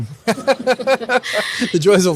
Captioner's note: laugh